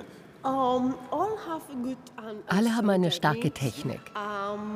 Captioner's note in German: englisch